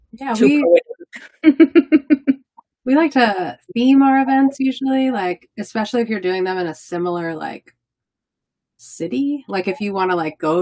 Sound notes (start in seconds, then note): 1.1 laughing